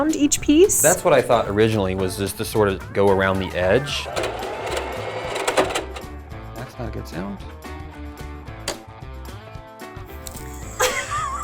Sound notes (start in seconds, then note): 4.0 sewing machine chunking; 9.0 upbeat guitar music